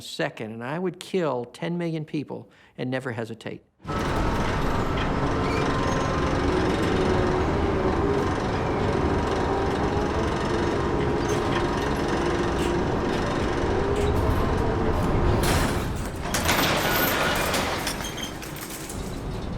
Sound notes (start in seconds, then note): none